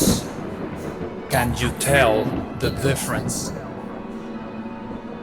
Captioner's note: distorted voice: Can you tell the difference?